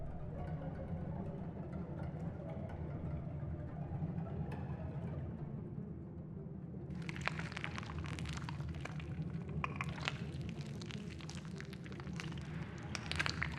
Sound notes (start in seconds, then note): 0.0 eerie music; 8.6 flesh squishing